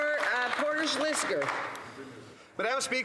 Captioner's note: some Applause